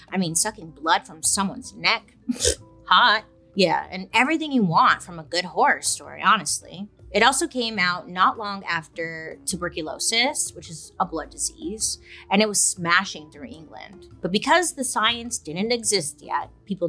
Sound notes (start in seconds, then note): 2.3 scoffs